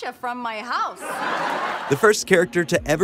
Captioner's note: laughing